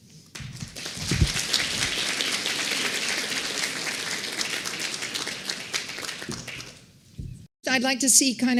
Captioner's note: applause